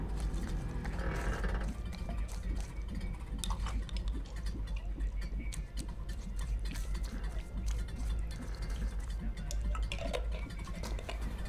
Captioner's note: brushing liquid